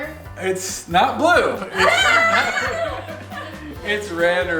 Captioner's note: laughs